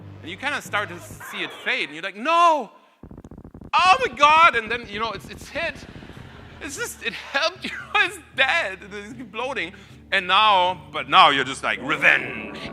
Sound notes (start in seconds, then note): 5.5 audience laughing